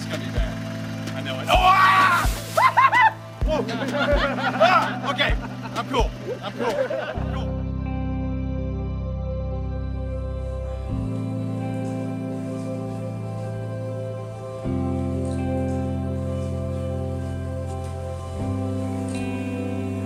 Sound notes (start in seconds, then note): 2.0 shouting; 4.9 group laughing; 8.1 soft thoughtful music